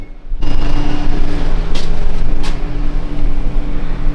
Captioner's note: engine Revving